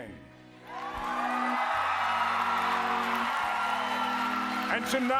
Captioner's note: applause